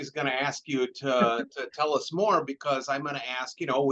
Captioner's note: chuckles